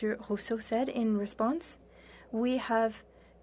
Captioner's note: speaking French